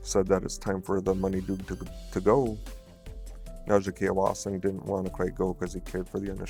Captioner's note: speaking Ojibwe